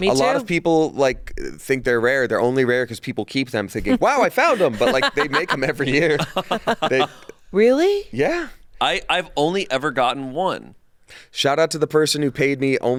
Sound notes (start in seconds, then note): 6.5 hosts laughing